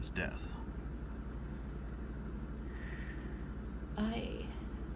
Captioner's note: Jessica takes a deep breath